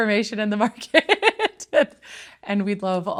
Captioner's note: laughing